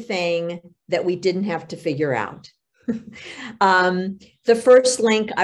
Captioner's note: chuckles